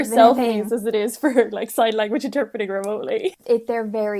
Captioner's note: laughing